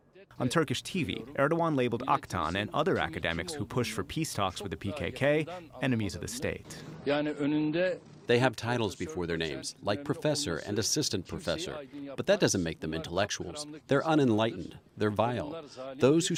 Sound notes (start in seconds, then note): 7.5 through translator